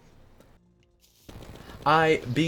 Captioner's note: 5 second silence